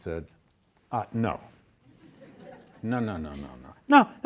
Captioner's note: students laughing